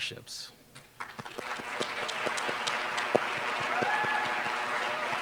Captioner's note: applause